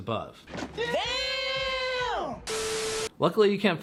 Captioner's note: film beeping